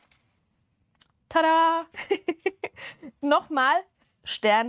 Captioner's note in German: Gelächter